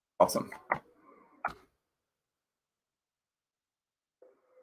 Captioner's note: mouse clicking